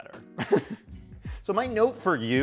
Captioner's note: laughing